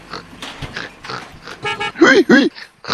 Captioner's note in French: bip bip